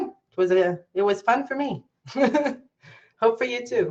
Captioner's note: giggles